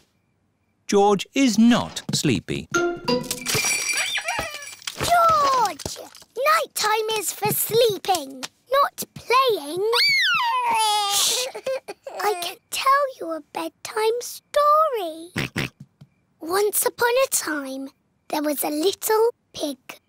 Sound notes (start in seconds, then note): 2.8 bells ring and toys squeak; 10.0 cries; 15.4 oinks